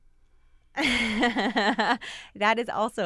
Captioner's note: laughing